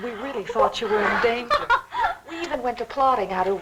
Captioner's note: Janice laughs